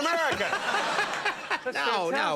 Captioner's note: audience laughs